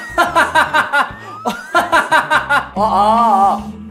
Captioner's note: laughing